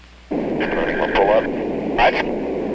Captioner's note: radio chat